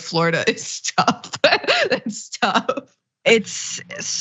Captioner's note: laugh